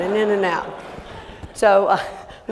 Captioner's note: laughter